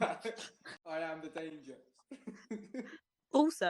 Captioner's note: laughter